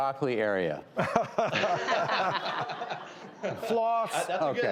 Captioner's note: laughing